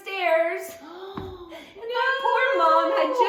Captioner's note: gasps